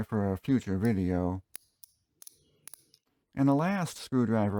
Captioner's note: ratchet sounds